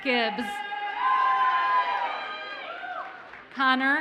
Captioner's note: audience cheers and applauds